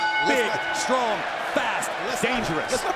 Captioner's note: bell ringing